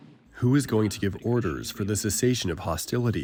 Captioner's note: through translator